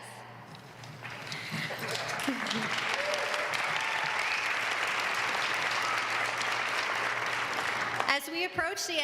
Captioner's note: applause